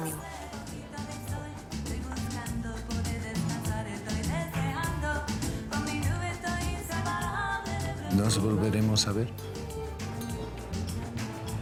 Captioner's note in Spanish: Susurrra